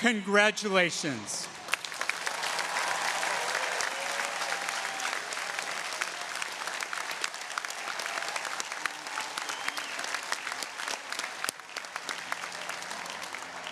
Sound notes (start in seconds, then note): 2.3 audience cheering